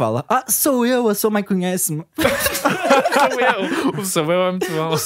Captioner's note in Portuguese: risos